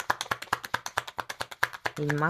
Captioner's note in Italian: Applauso